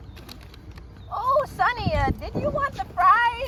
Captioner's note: in grandpa voice